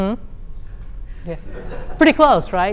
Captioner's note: laughter